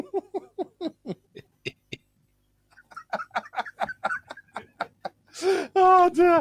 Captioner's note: laughter